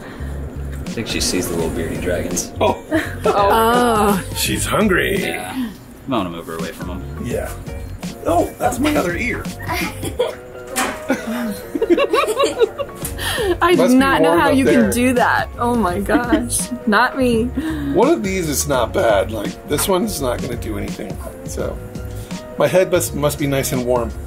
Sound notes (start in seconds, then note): 2.6 girls laugh; 9.4 laughs; 10.8 everyone laughing